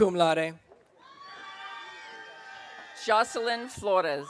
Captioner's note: audience cheering